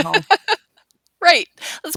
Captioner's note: lady laughing